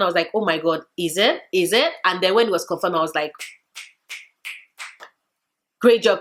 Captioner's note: snaps fingers